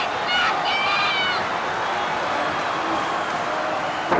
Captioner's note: fans shouting